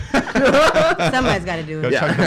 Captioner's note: laughing